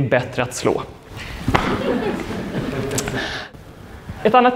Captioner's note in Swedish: skratt